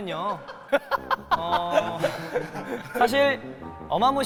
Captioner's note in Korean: 하하하하